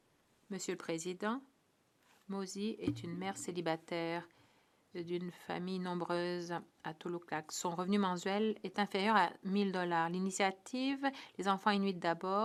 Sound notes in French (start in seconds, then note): 3.2 voix de l'interprète